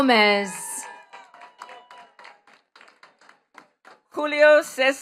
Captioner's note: attendees clapping